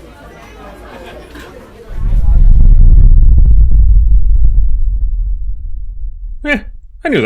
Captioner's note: rumbling